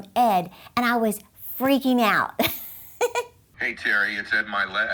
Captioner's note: laughs